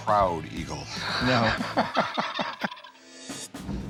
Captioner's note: laughter